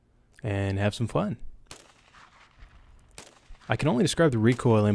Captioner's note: gunshots firing